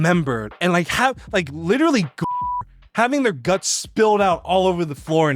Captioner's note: beeps